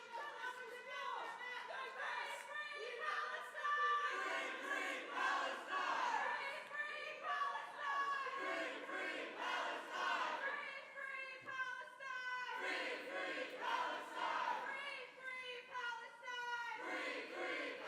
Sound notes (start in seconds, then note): 2.7 chanting